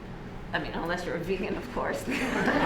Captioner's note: laughter